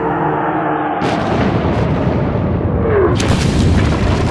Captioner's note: bomb explodes